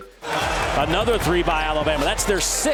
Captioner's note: voiceover